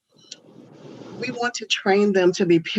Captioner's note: air whooshing